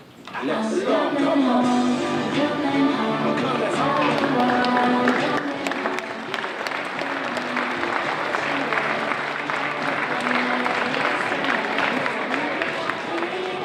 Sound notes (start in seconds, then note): 0.9 audience applauding; 10.8 upbeat music